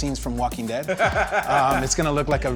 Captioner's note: laughs